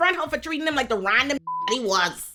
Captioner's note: beep